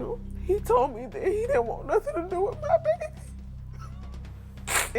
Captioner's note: cries